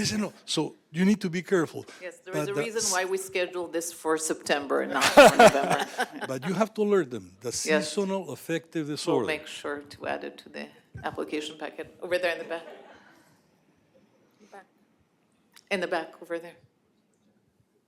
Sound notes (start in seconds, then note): 4.9 laughter